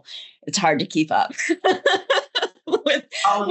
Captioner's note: laughs